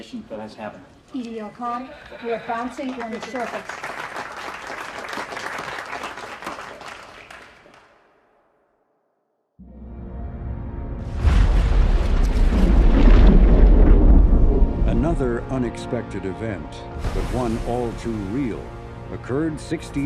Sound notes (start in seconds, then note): 4.8 crowd claps; 11.0 loud bang